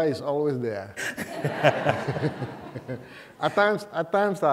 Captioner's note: laughter